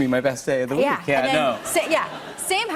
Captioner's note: laughter